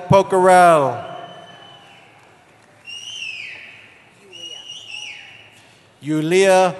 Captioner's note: cheering